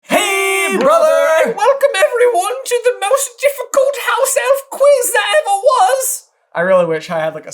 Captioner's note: squeaky